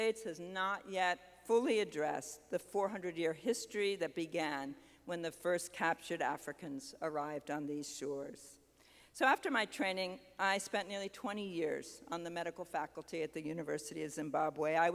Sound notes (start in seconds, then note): none